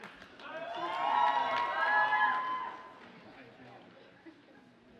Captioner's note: audience cheers and applauds